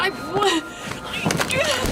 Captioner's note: sobbing